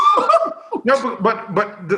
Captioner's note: laughs